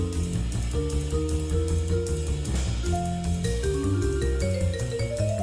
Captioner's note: none